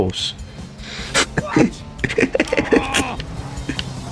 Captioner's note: laughs to myself